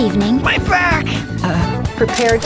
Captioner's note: nervous utterance